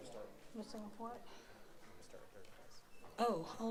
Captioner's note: speaking softly